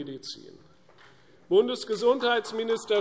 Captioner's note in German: Beifall